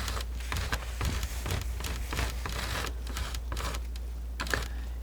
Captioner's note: scratching